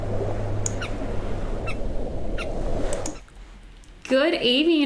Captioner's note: birds peep